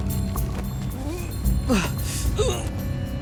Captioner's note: grunting